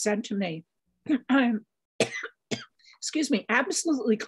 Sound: coughs

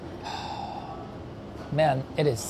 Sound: sighs

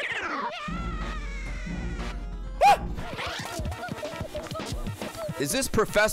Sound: screams

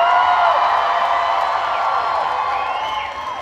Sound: cheering

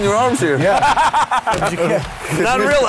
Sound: Luke laughing

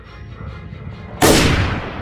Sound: gunshot

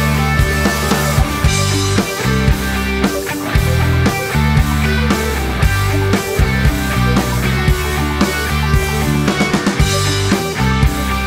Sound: magnetic tape

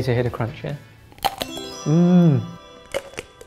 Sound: ice cream crunches; ice cream crunches in slow motion

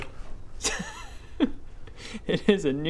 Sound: laughs

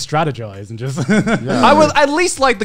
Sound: laughs

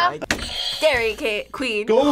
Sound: buzzer rings; laughs

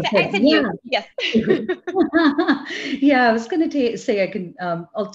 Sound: laugh

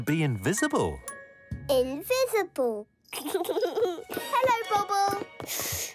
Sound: giggles

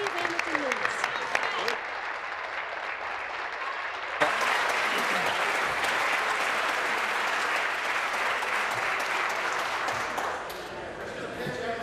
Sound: applause

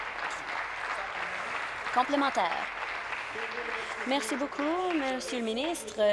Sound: applause

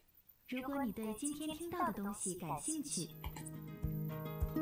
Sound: reads document in Chinese

